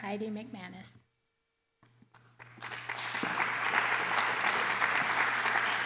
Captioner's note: applause